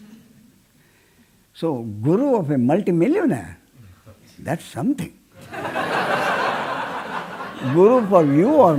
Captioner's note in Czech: smích